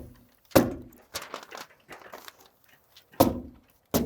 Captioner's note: stapler hammering